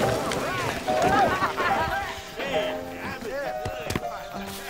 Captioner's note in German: Leute lachen